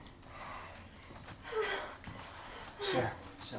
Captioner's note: Sarah whimpers